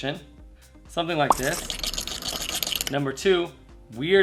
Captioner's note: liquid stirring